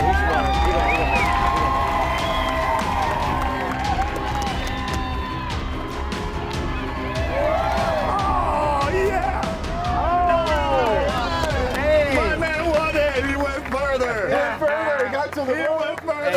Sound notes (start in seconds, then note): 2.1 crowd cheering; 10.0 cheering